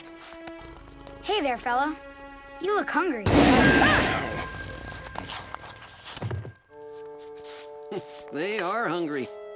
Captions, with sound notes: Hey there, fella. You look hungry. [roaring, shrieking] They are hungry.